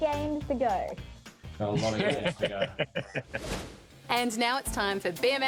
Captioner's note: laughs